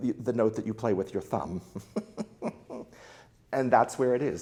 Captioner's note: laughs